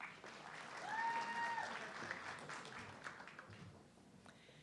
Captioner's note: audience clapping